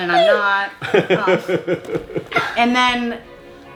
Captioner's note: laughs